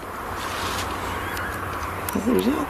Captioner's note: high pitched screech